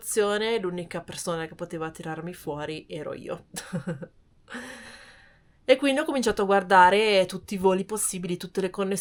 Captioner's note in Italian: risate